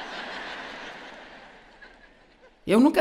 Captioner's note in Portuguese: audiência ri